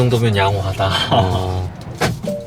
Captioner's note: chuckles